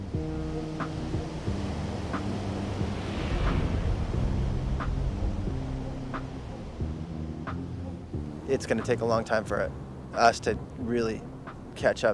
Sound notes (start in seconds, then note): none